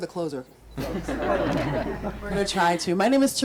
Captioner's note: group laughs